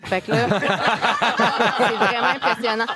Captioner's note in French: rires